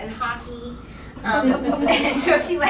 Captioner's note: laughing